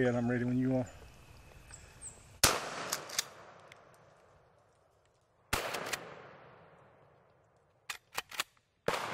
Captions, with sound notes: I'll hold this gun. Go ahead, I'm ready when you are. (gunshots)